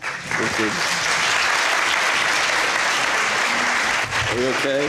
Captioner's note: applause